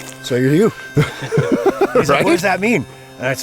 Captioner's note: all chuckling